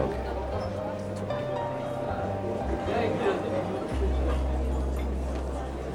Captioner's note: mellow music; people chattering